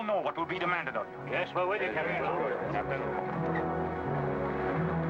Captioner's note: men chattering